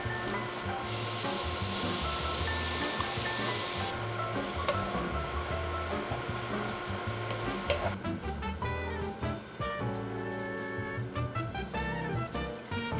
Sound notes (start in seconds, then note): 1.4 simmering